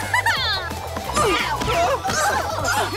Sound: chuckles; grunting

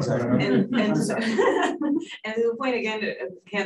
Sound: laughs

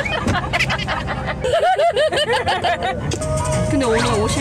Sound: forgot how to stop laughing

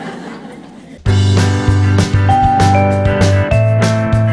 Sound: audience Laughter

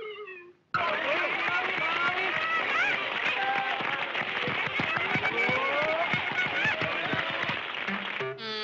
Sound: applause

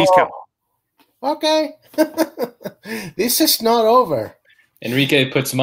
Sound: chuckling

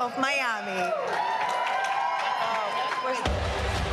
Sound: cheering

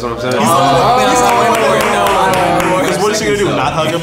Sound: men yelling

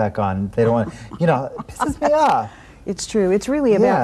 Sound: laughing

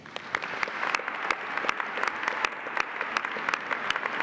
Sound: audience applauding

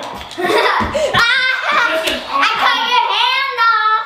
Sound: girl laughs

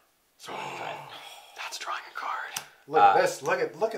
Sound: gasp

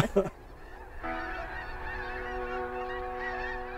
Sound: Vick chuckles; haunting techno music

